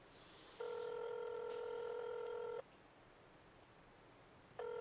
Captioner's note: phone ringing